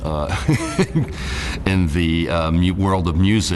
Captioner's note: laughs